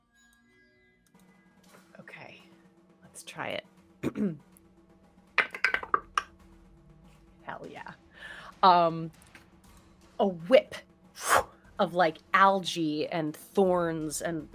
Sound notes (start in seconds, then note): 4.0 clears throat; 5.4 dice clatter; 10.8 mimics whoosh